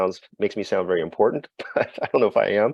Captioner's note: laughs